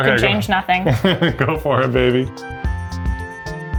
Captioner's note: chuckles; upbeat music